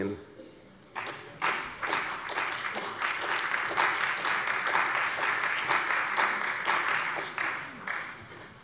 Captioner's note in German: Beifall bei der CDU und dem BÜNDNIS 90/DIE GRÜNEN